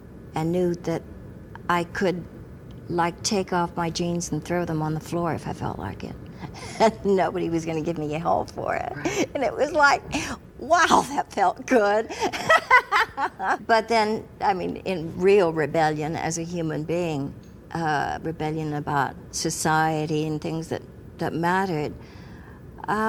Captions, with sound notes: and knew that I could like take off my jeans and throw them on the floor if I felt like it. Nobody was going to give me a hold for it, and it was like wow that felt good.(Laughs) But then, I mean in real rebellion as a human being, a rebellion about society, and things that that mattered,